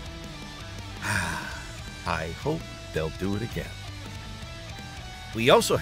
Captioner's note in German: seufz